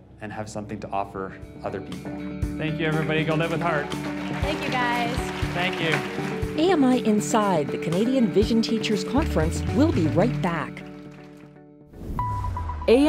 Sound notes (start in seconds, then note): 5.5 applause